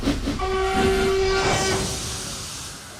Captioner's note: A whistle echoes